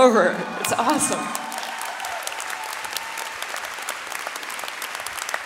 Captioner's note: audience cheering and clapping